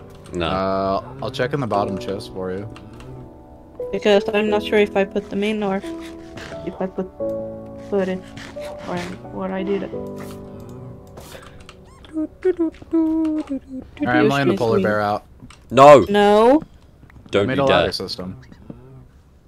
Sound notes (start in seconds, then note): 12.2 humming